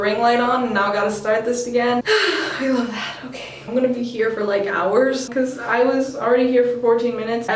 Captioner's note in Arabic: تنهدات